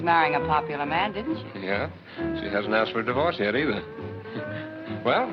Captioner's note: chuckles